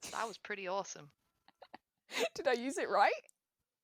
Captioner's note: laughs